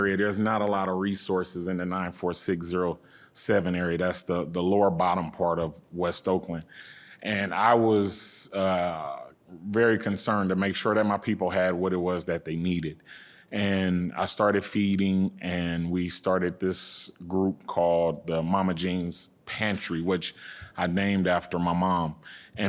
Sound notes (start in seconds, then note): none